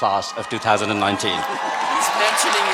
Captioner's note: cheering